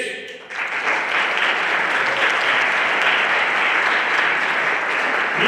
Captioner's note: everyone applauding